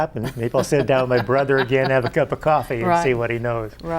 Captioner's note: laughs